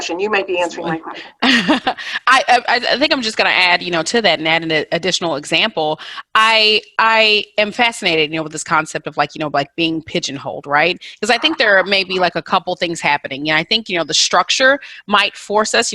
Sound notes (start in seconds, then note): 0.6 laughs